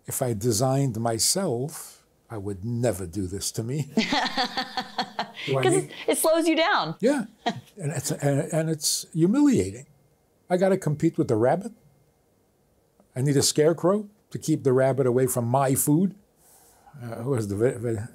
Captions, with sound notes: If I designed myself, I would never do this to me. (both laughing) - Because it slows you down. - Yeah. And it's humiliating. I gotta compete with the rabbit. I need a scarecrow to keep the rabbit away from my food. Who has the...